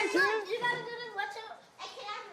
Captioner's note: kids chattering